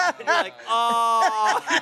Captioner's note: laughs